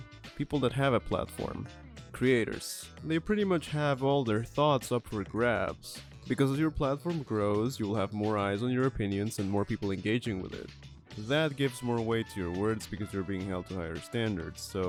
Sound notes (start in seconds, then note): none